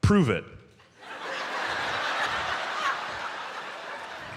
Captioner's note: audience laughs